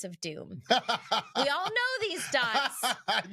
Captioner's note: laughing